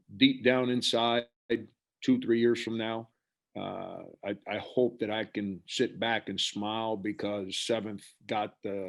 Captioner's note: none